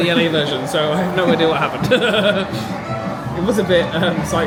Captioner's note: laughing